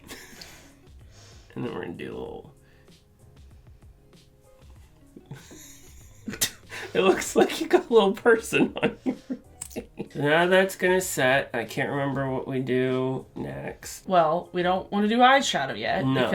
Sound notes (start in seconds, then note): 5.2 laughter